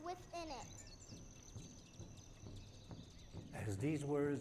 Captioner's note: birds chirping and drums beating